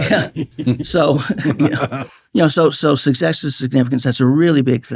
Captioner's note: laughing